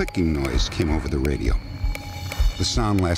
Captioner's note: clicking